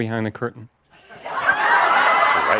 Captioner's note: laughter